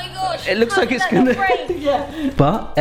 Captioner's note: laughs